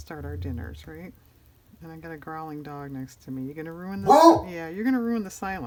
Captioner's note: dog barks